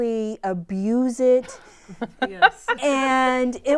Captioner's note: laughter